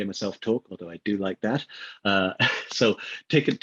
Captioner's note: laughs